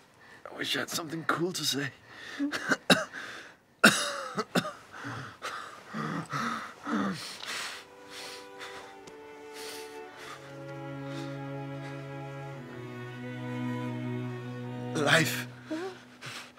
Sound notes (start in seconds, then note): 2.2 coughs; 5.0 gasping